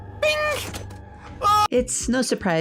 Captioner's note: screams